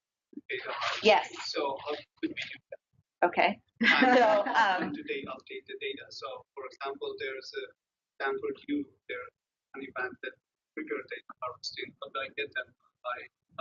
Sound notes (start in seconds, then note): 3.8 audience laughs; 5.5 man speaks through warped and choppy audio